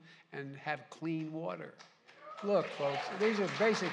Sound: applause

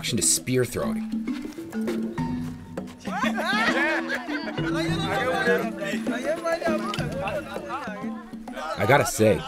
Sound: cheering/encouragement

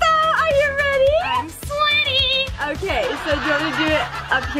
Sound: audience laughs

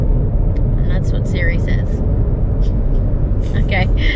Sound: laughs quietly under breath

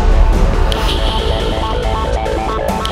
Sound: snaps finger; snaps finger

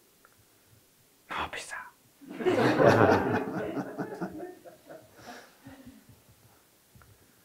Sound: all chuckling

